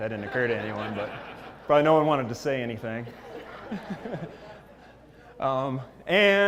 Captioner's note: laugh